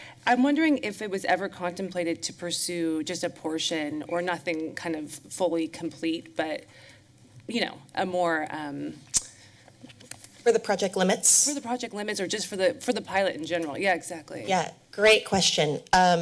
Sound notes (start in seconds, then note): 9.3 tsked